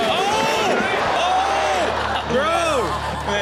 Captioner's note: audience laughing; Steelo exclaims